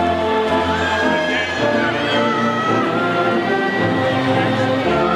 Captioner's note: audience faintly shouting